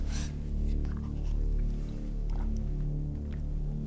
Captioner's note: drinking sounds